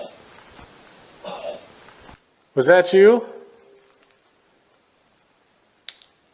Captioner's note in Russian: Увеличенная громкость, жуткий кашель